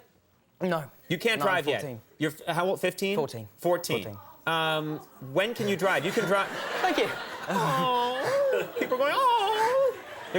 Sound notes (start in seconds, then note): 5.6 crowd laughs